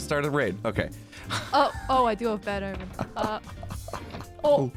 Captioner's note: stammers